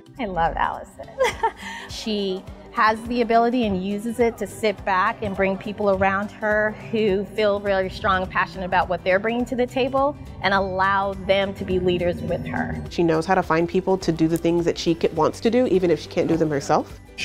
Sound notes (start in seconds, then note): 1.1 laughs